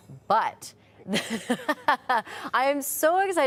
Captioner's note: laughing